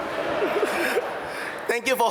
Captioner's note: audience laugh